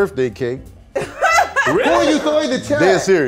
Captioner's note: laughing